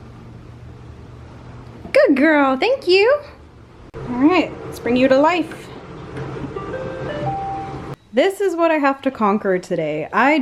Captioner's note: Roomba makes a do do do do noise